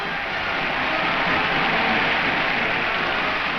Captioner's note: crowd cheers